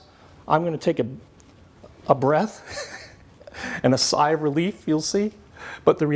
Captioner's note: laughs